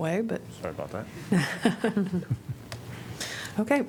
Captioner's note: laughter